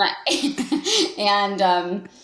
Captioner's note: Jen laughs